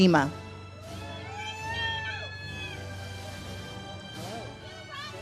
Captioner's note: audience cheers